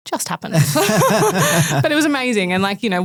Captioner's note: group laughing